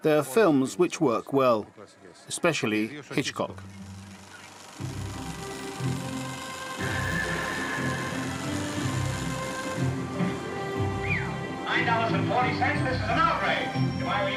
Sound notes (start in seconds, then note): 3.4 movie reel spinning; 10.9 whistling